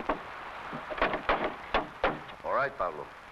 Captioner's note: handle pounding